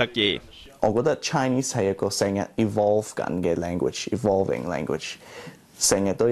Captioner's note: Cantonese